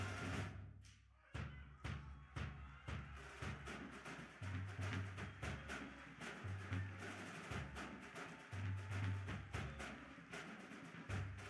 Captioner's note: audience applauding along with drum cadence